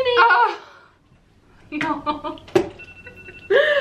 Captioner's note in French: rires